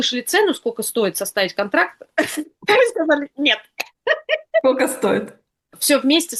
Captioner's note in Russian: смех